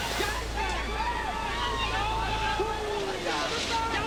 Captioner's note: bystanders shout